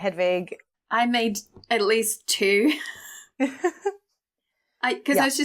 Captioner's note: laughs